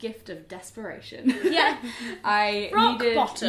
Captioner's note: laughs